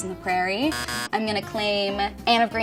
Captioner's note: buzzer beeps